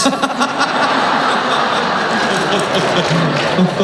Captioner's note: laughing; clapping